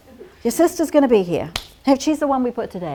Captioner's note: clap